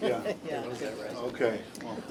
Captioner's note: laughter